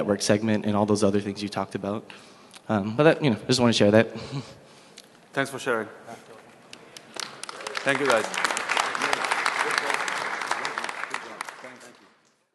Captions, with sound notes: segment and the other things we talked about. I just wanted to share that. >> Thanks for sharing. (Applause.)